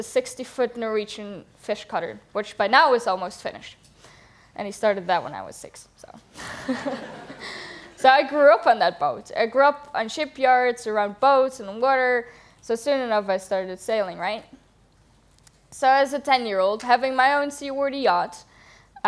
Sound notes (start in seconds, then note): 6.3 laughter